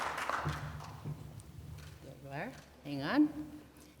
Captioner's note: applause